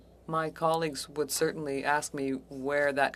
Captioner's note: speaking French